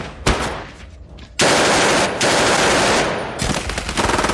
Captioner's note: guns firing